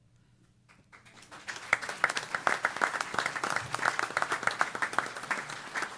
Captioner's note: applause